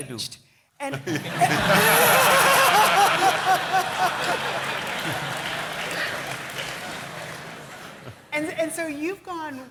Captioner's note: laughter